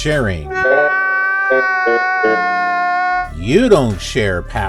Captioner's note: whining man